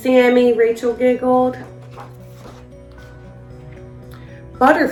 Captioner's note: uplifting instrumental music; pages shuffles